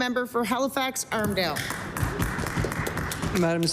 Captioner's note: applause